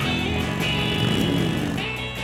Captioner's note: engine revs